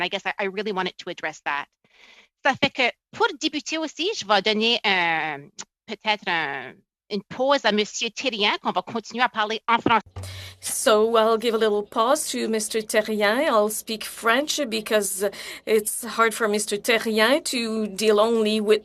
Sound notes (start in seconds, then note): 9.2 speaking in french